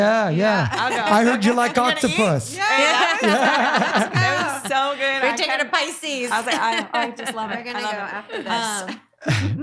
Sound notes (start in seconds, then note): 3.4 laughing